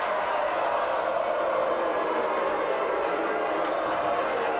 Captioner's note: spectators booing